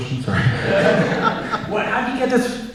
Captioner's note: audience Laughing